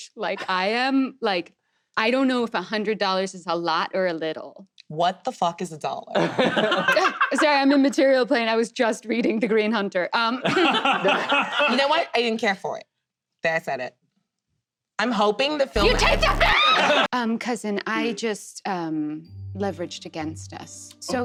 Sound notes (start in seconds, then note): 6.1 laughter; 16.5 Fae screams